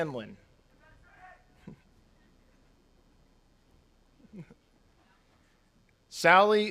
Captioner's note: chuckles; attendee cheers